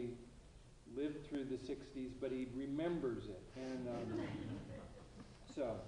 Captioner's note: laughter